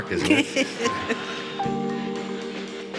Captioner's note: audience laughs; light orchestral music